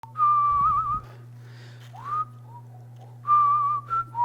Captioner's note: casual whistling